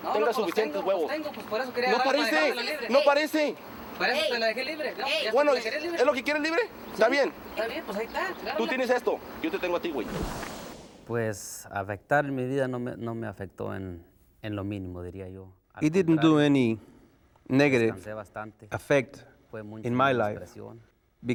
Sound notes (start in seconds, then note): 10.7 speaking spanish